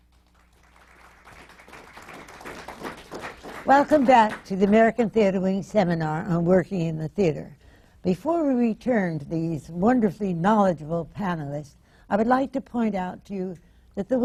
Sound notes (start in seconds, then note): 0.0 applause